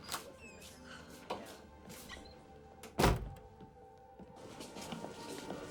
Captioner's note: door closes